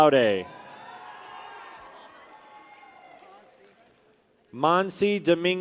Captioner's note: people cheer